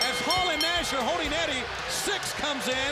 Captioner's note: bell ringing